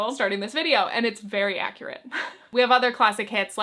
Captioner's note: chuckles